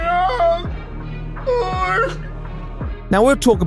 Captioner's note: more crying